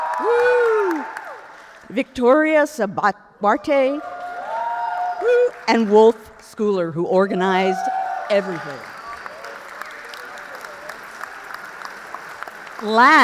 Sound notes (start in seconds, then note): 0.0 audience cheers; 3.8 audience cheers; 9.4 audience applauds